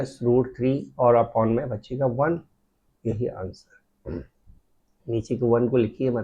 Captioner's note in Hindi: गला साफ़ करने की आवाज़